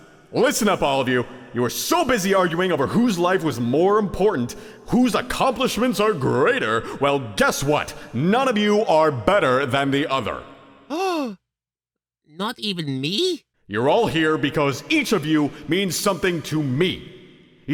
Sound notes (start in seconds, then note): 10.9 gasp